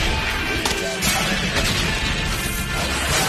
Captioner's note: explosions